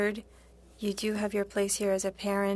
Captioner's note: speaking French